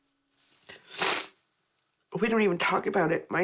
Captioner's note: sniffs